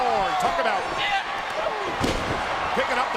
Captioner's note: wrestler thuds